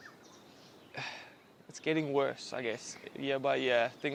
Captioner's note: sighs